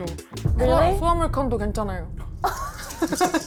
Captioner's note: thud sound effect